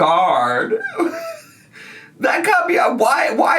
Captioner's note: laughs